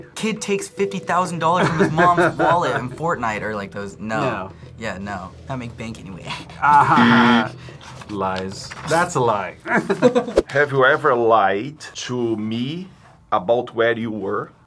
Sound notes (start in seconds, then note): 6.9 buzzer